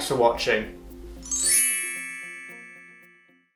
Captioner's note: magical chiming